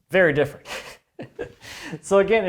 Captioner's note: chuckling